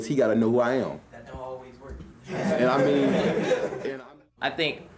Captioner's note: students chuckling